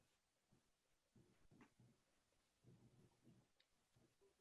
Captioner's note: none